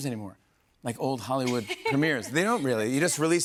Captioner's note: laughs